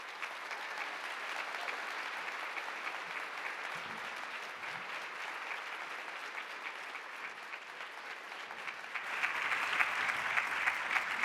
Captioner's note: applause